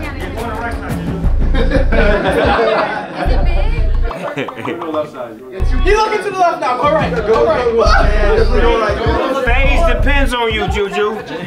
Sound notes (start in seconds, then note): 4.1 laughs